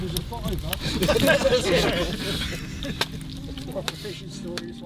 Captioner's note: laughter